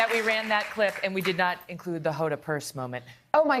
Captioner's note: applause